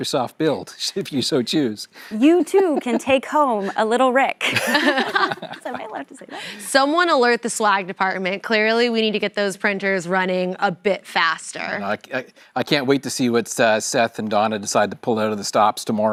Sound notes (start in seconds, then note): 6.8 laughter